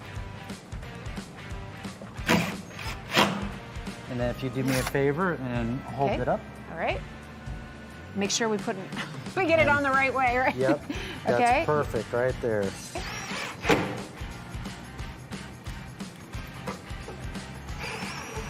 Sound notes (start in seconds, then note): 0.2 drill whirring; 12.9 drill whirring